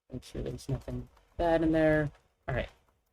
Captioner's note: none